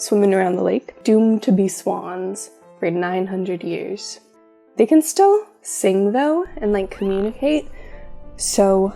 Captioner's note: swan sounds